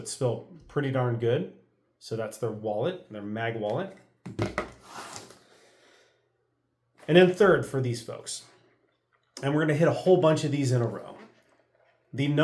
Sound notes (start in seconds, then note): 4.2 box thuds